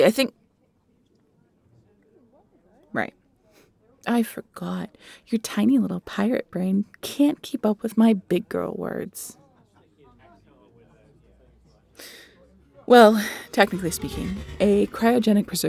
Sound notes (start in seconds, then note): 3.0 teasing tone